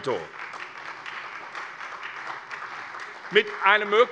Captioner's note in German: Beifall SPD